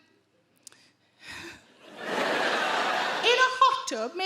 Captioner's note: Sarah sighs; audience laugh